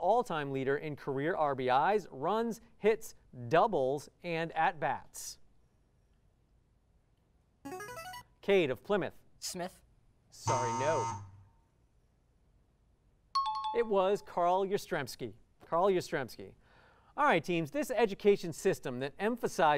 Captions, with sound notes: RBIs, runs, hits, doubles, and at-bats. [musical scale] Cade of Plymouth. Smith. Sorry, no. [buzzer] [bell ringing] It was Carl Yastrzemski. Carl Yastrzemski. All right, teams. This education system that emphasizes independence